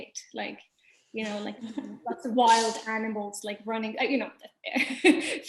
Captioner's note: laughing